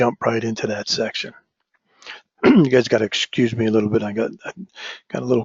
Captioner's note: cough